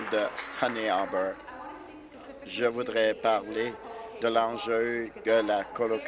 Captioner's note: applause